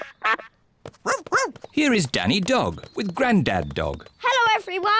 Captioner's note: quacks; barks